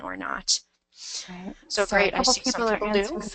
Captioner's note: voiceover